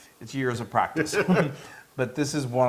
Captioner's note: laugh